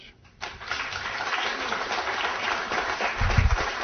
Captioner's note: applause